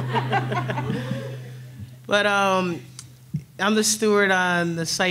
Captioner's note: laughs